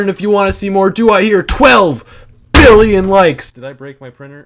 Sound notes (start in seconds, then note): 2.4 bang